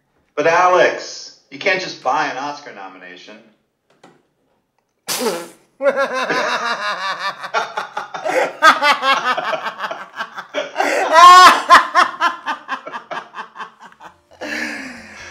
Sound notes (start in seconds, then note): 5.8 laughter